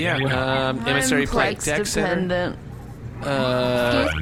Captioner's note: slurring